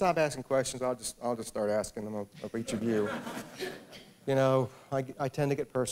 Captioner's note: laughter